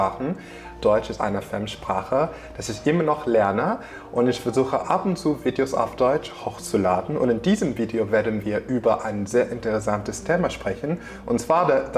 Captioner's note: in German